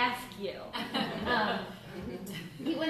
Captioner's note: laughter